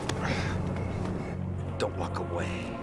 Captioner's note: slapping; grunting